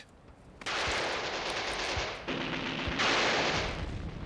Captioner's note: gun fires